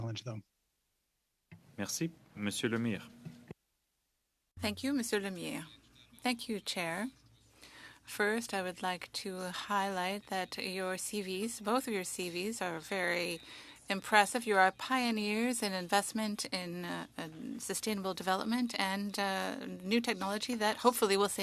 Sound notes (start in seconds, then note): 12.7 speaking French